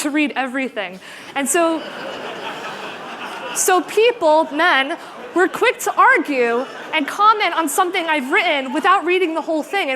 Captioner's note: laughter